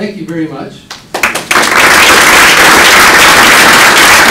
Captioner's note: applause